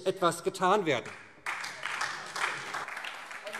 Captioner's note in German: Beifall SPD